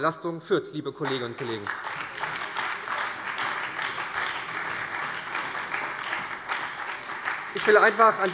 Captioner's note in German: Beifall bei der SPD, der LINKEN und der FDP